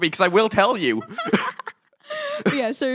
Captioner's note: both laughing